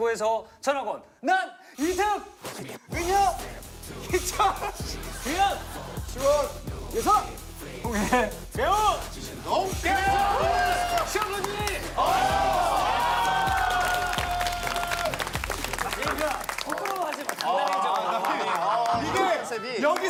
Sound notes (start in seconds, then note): 13.3 applause